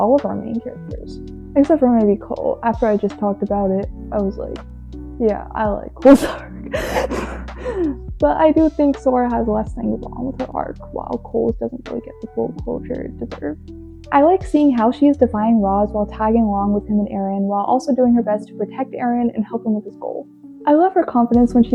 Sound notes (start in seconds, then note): 6.7 laughs